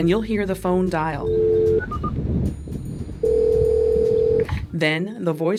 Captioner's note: dial tone and phone dialing